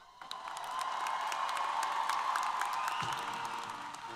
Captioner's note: applause & Cheers